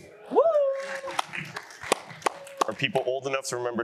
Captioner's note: cheering